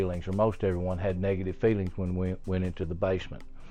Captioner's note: none